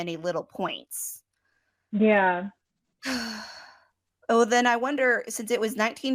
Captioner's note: sigh